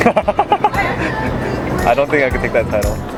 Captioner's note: laughter